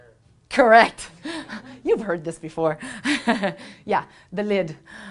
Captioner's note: laughs